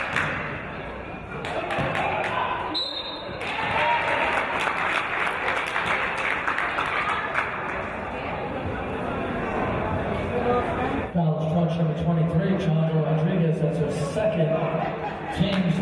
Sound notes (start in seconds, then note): 2.7 referee's whistle; 3.4 applause